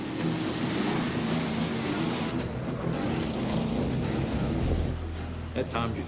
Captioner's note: engines revving; rock music